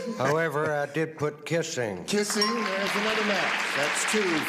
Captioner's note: applause